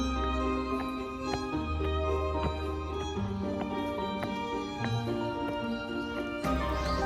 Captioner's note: laughs